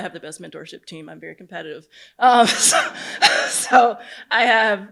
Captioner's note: laughs